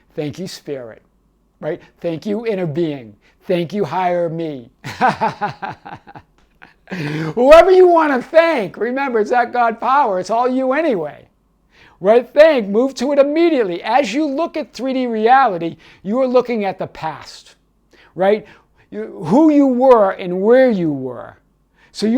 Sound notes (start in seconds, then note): 4.8 laughing